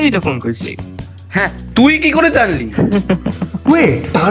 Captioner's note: laughs